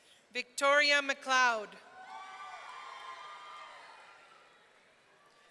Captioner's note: audience cheering